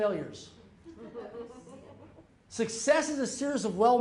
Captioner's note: audience chuckling